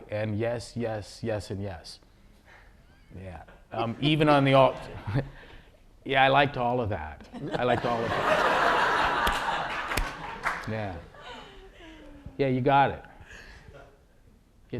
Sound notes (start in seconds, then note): 7.2 laughter